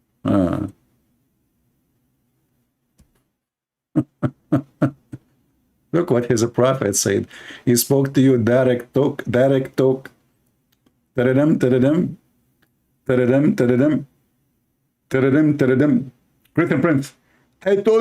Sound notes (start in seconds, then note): 3.9 Ketawa